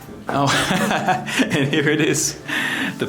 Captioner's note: laughs